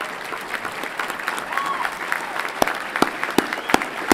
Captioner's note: everyone clapping